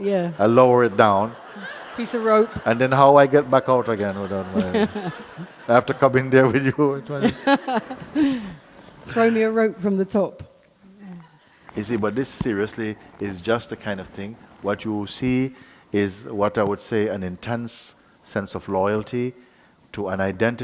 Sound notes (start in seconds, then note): 9.9 laughter